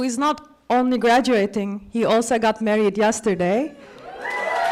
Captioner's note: applause